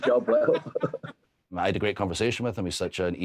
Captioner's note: Matthew and Drew laughing